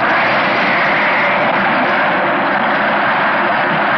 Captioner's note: splashing